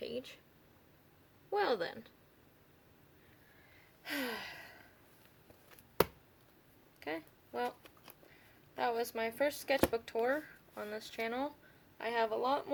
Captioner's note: sigh